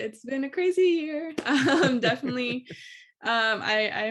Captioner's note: laughs